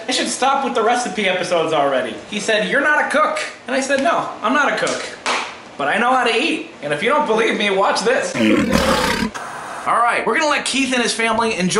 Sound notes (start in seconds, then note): 8.3 tiger roars